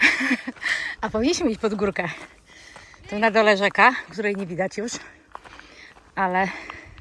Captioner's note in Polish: śmiech